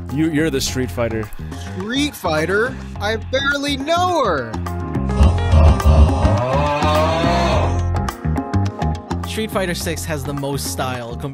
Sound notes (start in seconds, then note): 4.7 upbeat music; 5.1 person grunting